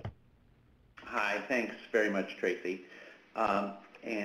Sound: voiceover

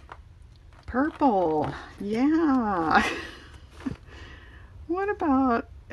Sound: laughs

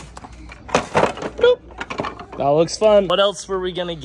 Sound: items clatter into cart

